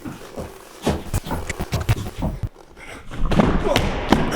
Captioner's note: static crackling; nails scraping; Jacob grunting; body thudding